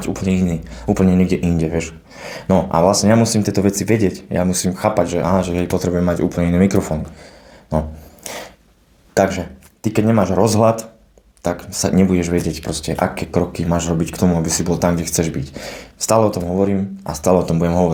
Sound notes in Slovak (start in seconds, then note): 8.0 smrkanie